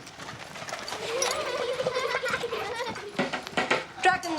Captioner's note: children giggling